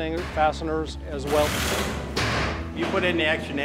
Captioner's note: construction noises